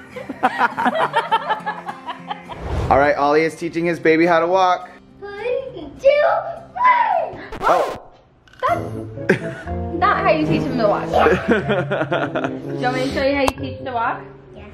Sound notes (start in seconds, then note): 0.1 laughing; 7.6 record scratching; 11.1 laughs